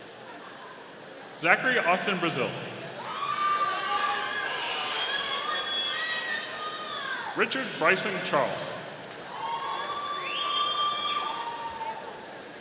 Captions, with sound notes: Zachary Austin Brazil. (audience cheering) Richard Bryson Charles. (audience cheering)